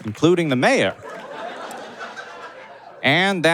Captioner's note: audience laughs